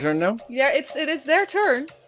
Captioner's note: whispering